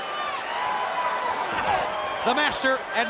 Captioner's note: crowd cheering